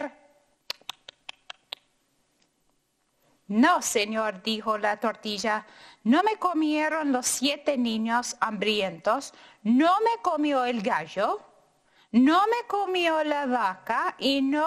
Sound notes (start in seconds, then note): 0.7 chomps; 3.4 speaking in foreign language